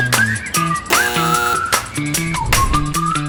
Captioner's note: intercom doorbell sound